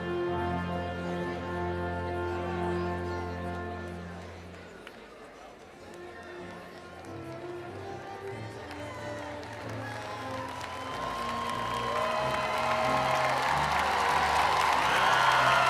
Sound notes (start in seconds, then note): 8.6 cheering continues; 9.3 inspirational music